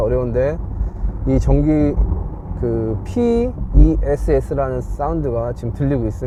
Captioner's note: Porsche Electric Sports Sound